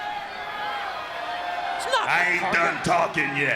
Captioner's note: crowd chatter